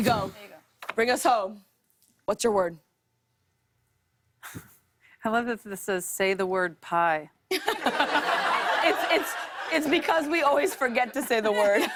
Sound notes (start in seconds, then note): 3.8 chuckles; 7.5 laughter